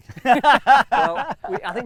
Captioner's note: laughing